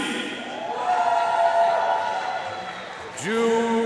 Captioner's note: audience cheering and applauding